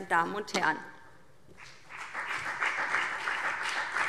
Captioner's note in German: Beifall BÜNDNIS 90/DIE GRÜNEN